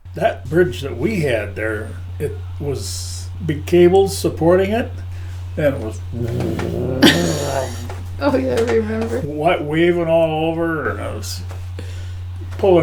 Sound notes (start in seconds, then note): 6.0 laughing; 6.2 vocalizing the bridge undulating